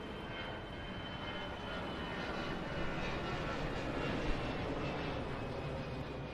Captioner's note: flight roars